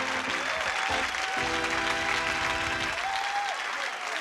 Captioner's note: upbeat music; applause